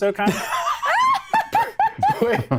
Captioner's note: laughs